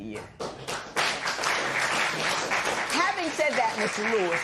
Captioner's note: applause